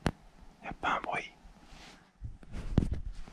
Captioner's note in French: chuchottement